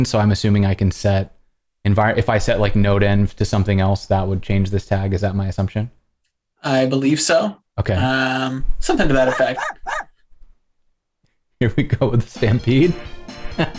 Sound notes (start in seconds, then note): 9.2 �Corgi barking�